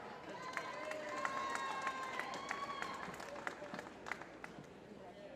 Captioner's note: applause